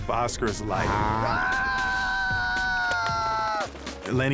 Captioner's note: screams